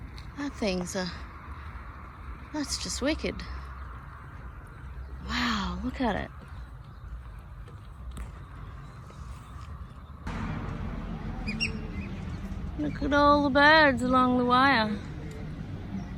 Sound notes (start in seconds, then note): none